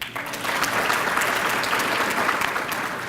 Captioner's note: applause